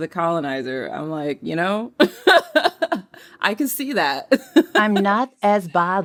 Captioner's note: laughter